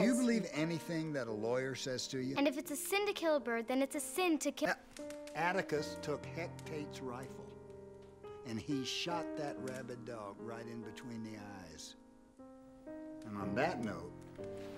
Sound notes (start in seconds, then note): none